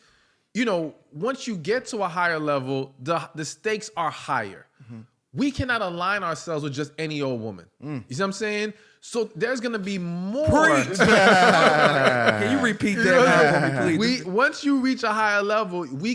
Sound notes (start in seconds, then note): 10.7 laughter